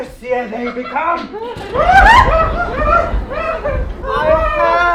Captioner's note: alfred and collette squeal in fear as thunder strikes